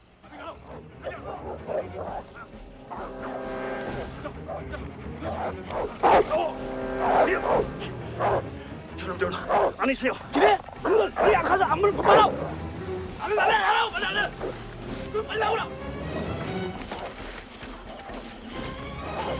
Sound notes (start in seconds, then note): 0.1 dogs Barking; 0.2 soldiers Shouting In Korean; 4.4 shouting Continues; 5.1 barking Continues; 8.4 Korean; 8.4 shouting in Korean; 12.4 shouting Continues